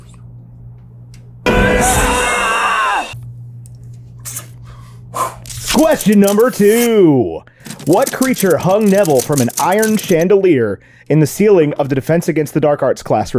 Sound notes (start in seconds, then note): 0.0 all the sword fighting/lightsaberish noises you could possibly imagine; 1.5 scream of rage